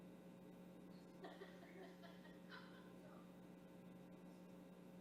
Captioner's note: woman laughing